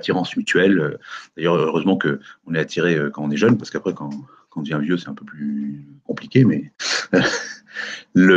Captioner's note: soft laugh